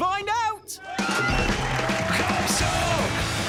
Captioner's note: cheering